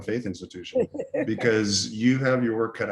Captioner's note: laughing